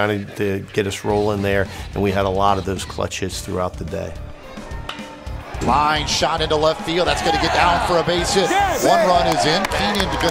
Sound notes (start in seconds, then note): 5.1 ball hitting bat